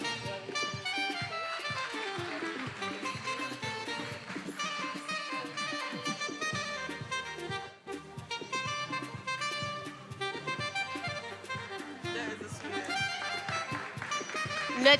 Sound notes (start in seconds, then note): 1.9 attendees applauding; 5.1 upbeat music